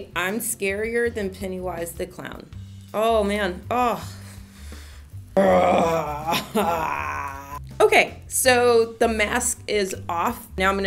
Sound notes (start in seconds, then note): 5.4 scary monster sound